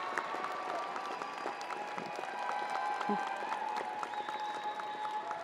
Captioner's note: crowd applauding continues